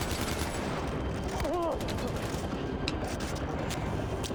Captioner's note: gun fires